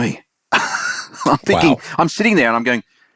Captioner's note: laughs